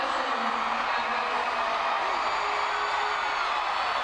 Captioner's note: crowd cheering